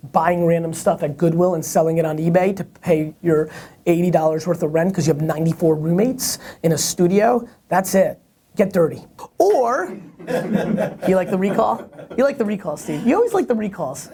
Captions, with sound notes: buying random stuff at Goodwill and selling it on eBay to pay your $80.00 worth of rent because you have 94 roommates in a studio. That's it. Get dirty. Or-- (laughter) You like the recall? You like the recall, Steve. You always like the recalls.